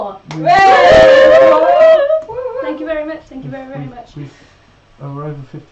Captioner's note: they cheer